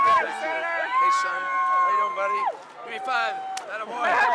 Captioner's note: cheering